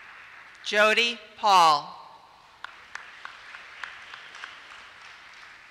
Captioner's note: applause